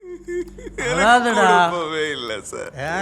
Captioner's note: in Tamil